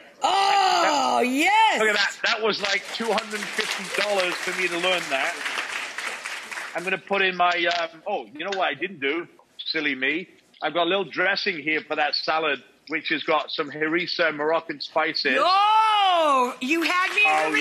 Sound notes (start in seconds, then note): 1.9 audience applauds